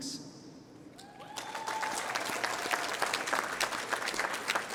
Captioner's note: applause